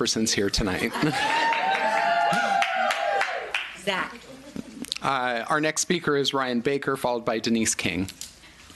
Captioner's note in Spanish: Aplausos